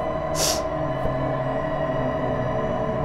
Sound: sniffling; eerie music

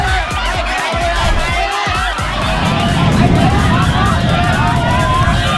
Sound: people screaming indistinctly

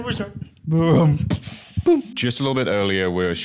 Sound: imitates explosion

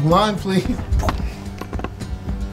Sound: whispers

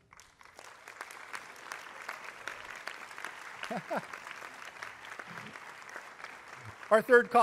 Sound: applause

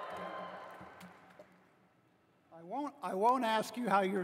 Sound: cheering

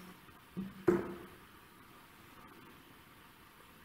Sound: hand knocking

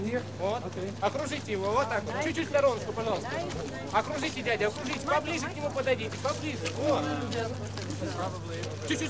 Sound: non-english speech

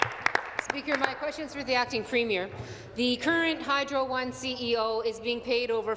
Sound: applause

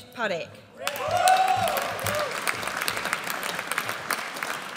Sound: audience applauds

